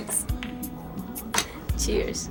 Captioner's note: glasses clink